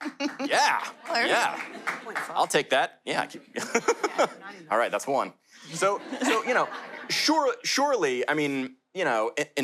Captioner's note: laughter